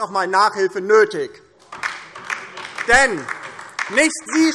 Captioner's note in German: Beifall DIE LINKE